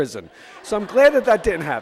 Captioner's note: audience laughs